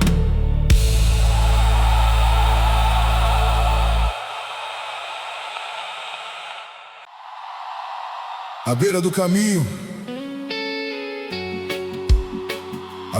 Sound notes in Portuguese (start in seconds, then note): 1.0 grito; 4.0 aplausos